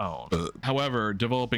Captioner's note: burps